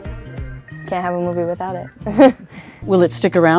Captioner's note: laughing